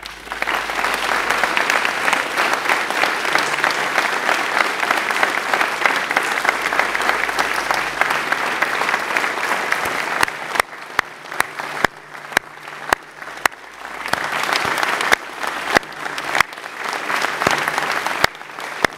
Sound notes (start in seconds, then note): 4.1 applause